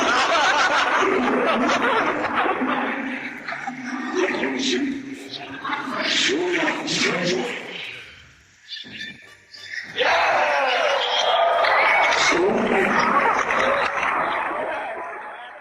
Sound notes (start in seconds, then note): 0.0 laughter; 3.8 cheering